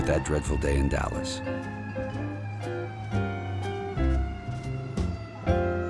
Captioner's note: siren wailing